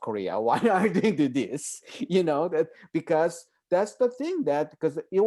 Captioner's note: laughing